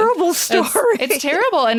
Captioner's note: laughing